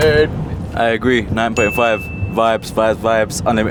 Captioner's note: bell dinging